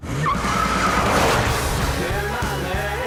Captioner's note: wheels screeching